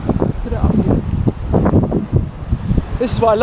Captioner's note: wind blowing